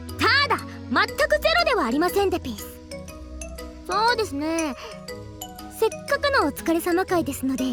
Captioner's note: none